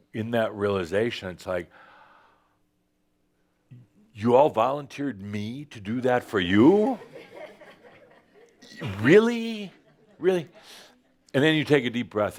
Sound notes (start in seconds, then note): 7.0 some chuckles